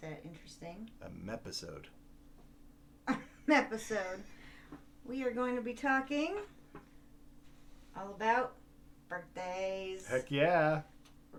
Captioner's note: laughs